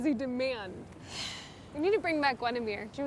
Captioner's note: Fern sighs